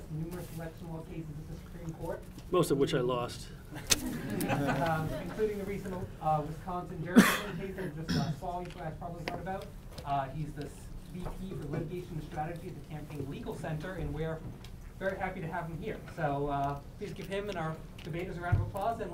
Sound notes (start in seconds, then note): 3.8 audience laughing; 7.0 cough drowns out speaker